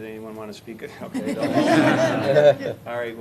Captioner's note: laughter